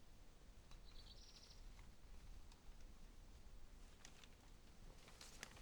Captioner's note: birds chirping continues